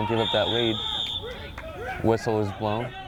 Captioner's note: whistle